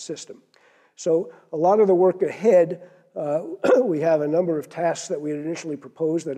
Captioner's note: cough